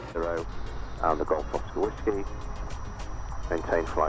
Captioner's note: man On Radio